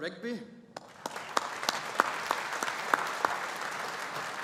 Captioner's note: audience applauding